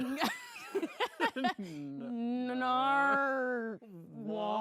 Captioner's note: laughs